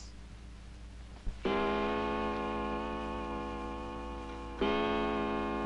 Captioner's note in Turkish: Duvar saatinin saat başı vuruş sesleri